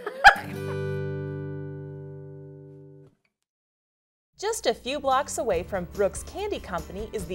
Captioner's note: laughing